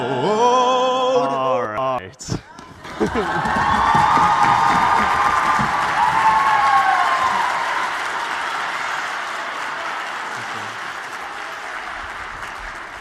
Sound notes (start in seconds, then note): 2.1 applause